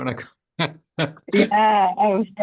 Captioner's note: chuckles